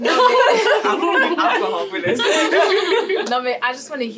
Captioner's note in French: rires